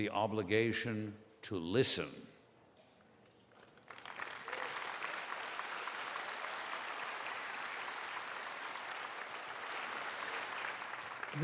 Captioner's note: applause